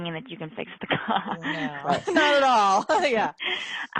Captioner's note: laughing